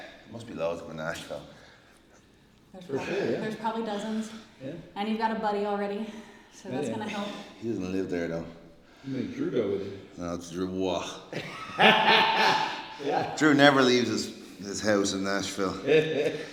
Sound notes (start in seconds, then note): 11.3 laugh